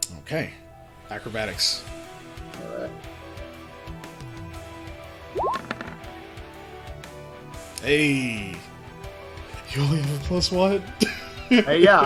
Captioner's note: laughs